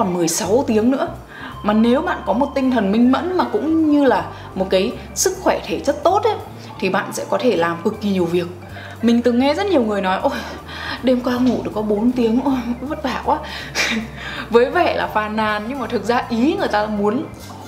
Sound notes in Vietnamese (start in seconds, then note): 13.6 cười